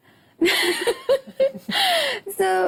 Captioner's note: laughs